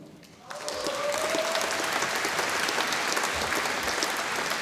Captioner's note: audience applauding